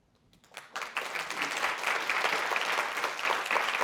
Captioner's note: audience applauds